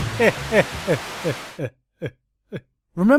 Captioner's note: static sound; sad laugh of someone who saw many orrible things